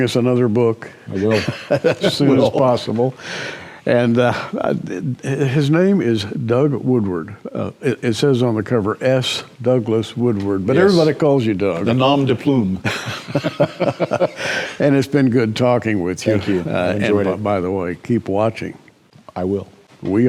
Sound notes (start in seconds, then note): 15.7 laughter